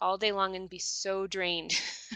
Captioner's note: laughs